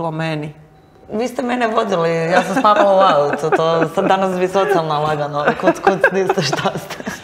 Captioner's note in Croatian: smijeh